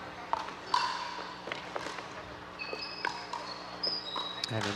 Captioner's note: ball bouncing